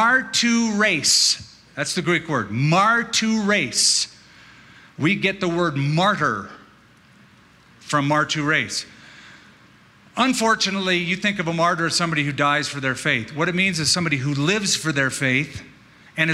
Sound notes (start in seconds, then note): none